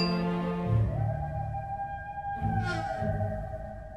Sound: distant howl

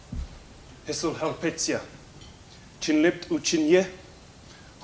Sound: speaks salish

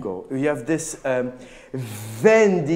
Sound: speaking in a foreign language

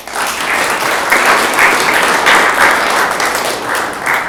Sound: audience clapping

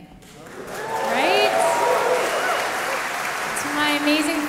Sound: audience cheering

